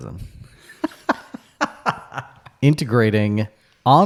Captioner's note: laughing